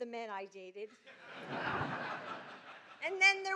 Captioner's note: laughter